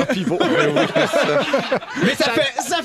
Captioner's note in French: rires